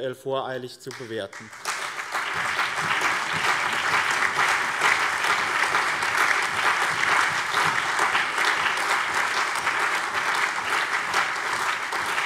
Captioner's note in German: Allgemeiner Beifall